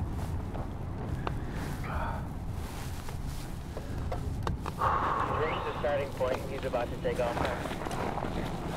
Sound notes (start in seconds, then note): 4.7 exhales; 5.6 voice over radio